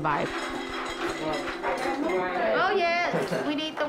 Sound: metal clattering

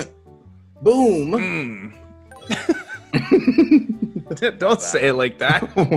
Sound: laugh

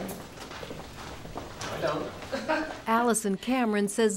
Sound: laughter

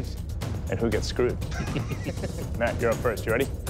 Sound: laughter

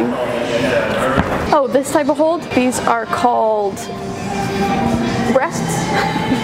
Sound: laughs

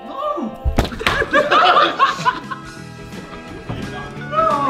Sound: Sidemen laughing

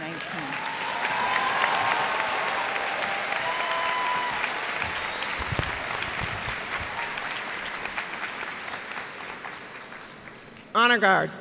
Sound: cheers and applause

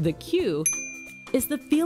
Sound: bell dings

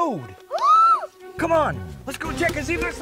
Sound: exclaims

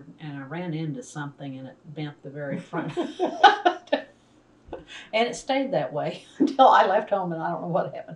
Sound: laughter

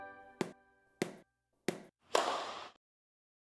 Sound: lively piano music; ball bouncing; racket hitting ball

